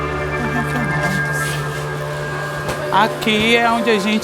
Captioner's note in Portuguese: murmurando